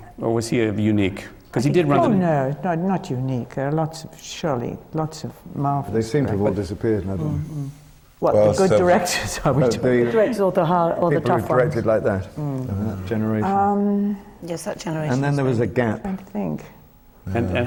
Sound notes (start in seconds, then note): 11.7 laughs